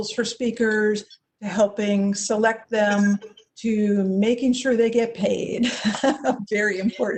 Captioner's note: chuckles